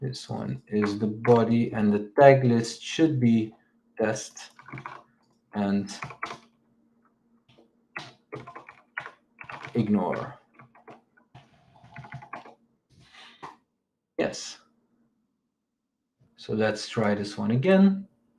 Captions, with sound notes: This one is the body and the tag list should be test and ignore. (keyboard clicks) Yes, so let's try this one again.